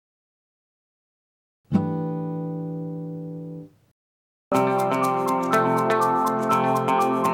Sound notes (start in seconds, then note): 1.9 chime sounds; 4.5 upbeat music